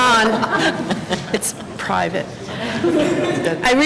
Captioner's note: laughter